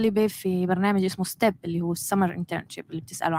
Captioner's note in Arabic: لغة أجنبية